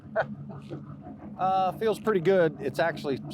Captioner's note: speaker laughs